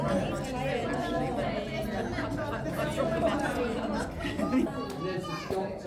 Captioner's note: crowd chattering